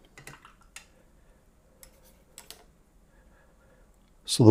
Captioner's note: silence